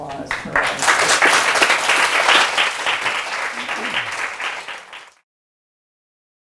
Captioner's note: audience clapping